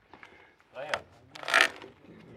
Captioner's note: creaks